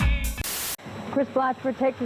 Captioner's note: Static